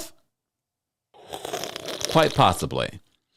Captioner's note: woman slurps drink